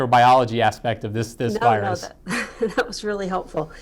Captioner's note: laughs